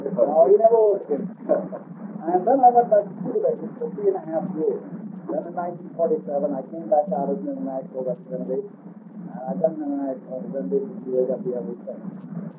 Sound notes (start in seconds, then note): 0.9 laughs